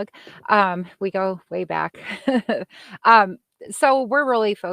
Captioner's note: laughing